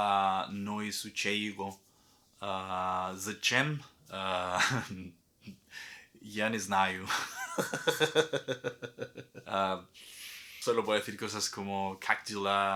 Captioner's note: laughs